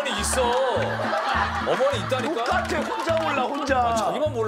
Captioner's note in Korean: 깔깔깔